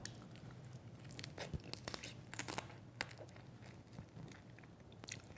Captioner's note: crunching crab